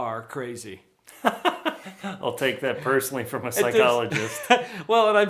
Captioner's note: laughs